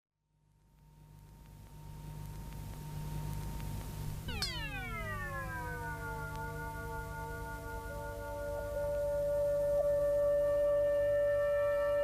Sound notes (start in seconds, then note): 4.2 steady tone; 4.2 futuristic whirring